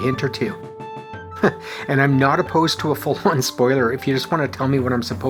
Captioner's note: chuckles